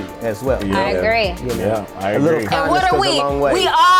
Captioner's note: group agreement